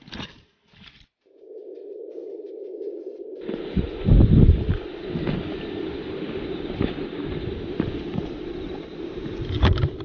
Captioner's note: woooooooh wind noise